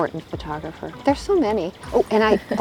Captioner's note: both laugh